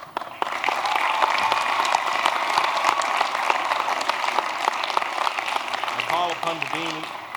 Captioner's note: applause